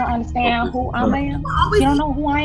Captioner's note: other students talking